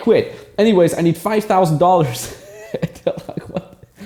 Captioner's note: laughing